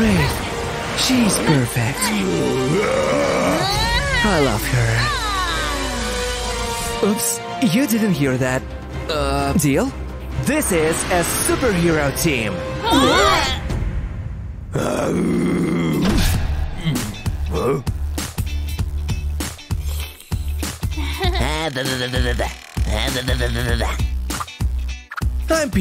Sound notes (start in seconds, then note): 14.7 roaring; 16.7 making a sip; 19.7 making funny sounds